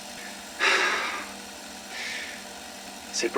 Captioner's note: breathes heavily